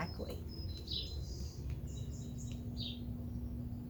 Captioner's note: birds chirping